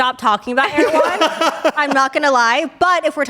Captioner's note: everyone laughs